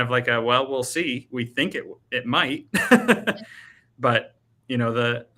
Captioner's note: laughing